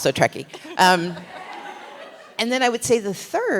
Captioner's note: laughter